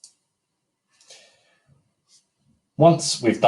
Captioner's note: mouse clicking